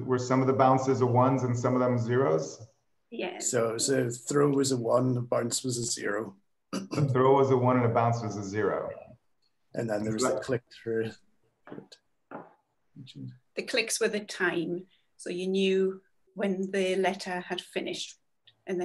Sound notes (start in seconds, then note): 6.7 clears throat